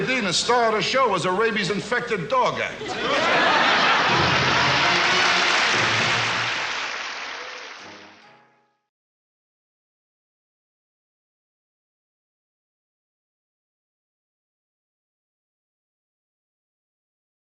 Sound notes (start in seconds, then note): 2.7 audience laughs; 3.1 audience applauds